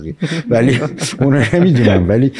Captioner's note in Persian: خنده حضار